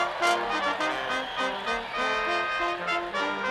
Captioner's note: upbeat orchestral music continues; people cheer; upbeat orchestral music continues